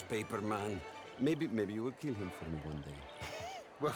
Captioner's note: laugh